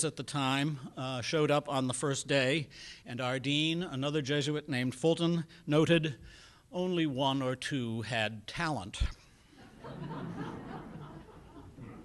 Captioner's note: laughter in background